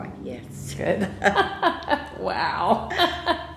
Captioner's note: laughter